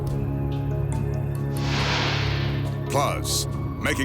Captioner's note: light beam swishing